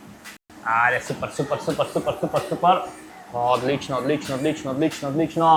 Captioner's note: laughter